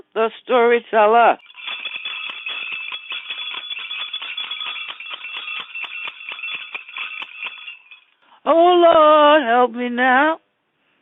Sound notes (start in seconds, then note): 1.4 bell rings